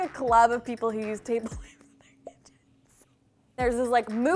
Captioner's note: laughs